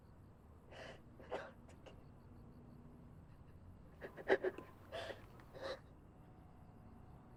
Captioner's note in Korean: 지석 흐느끼는 소리